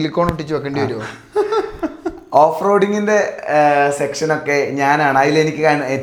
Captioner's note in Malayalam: പൊട്ടിച്ചിരി